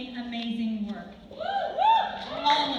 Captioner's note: cheers